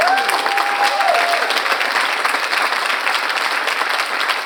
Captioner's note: audience applauds